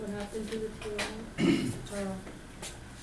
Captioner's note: voiceover